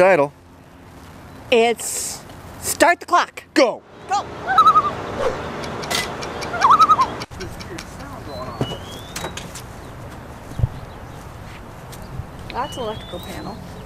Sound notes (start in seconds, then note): 4.4 loon call; 6.2 loon call